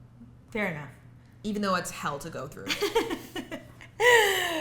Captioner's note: laughs